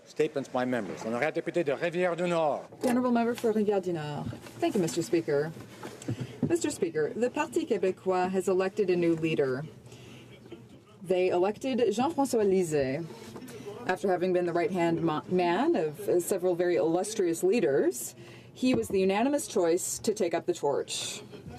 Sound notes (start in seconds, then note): 5.2 speaking French